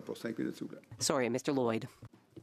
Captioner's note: speaking French